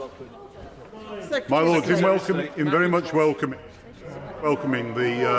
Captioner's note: members chatter